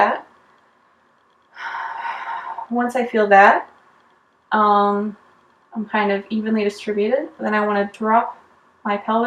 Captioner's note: breathes